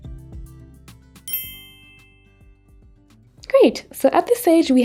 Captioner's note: twinkle tone